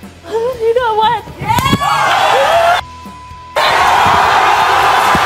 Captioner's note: audience cheering